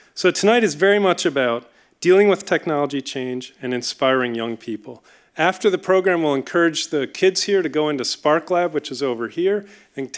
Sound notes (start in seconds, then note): none